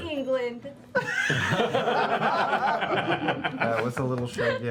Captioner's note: laughter